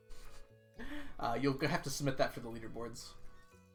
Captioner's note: chuckles